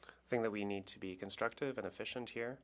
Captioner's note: speaking French